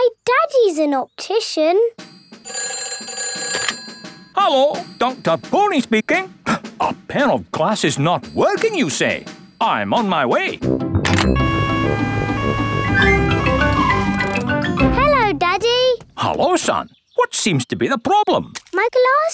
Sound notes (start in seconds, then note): 2.7 ringing; 11.3 siren wailing